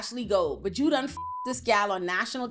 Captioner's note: beep